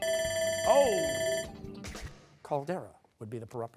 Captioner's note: bell ringing